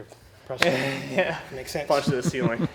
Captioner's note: laughing